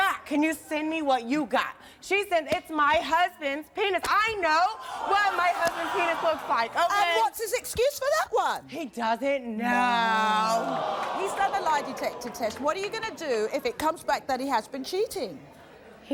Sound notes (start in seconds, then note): 9.9 audience groaning